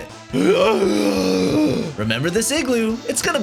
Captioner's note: gasppppp